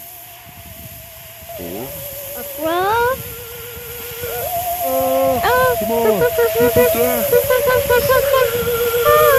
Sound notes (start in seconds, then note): 5.6 screams; 7.2 Scruff barks frantically